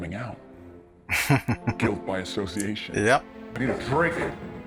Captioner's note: chuckling